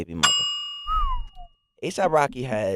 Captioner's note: whistling